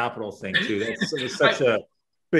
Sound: laughs

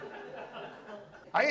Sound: audience laughs

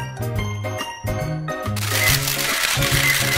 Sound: shutter sound

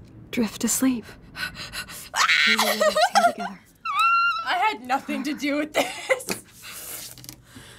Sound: hyperventilating; squeals

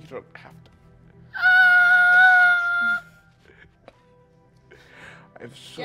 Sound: screeching

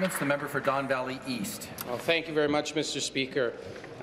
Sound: applause

